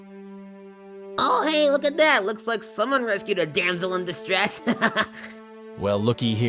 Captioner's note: laughs cheerfully